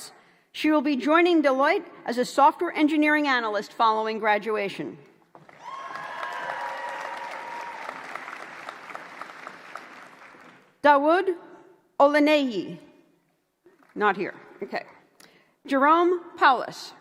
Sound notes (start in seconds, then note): 5.4 applause